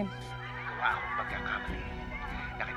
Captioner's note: Priam over phone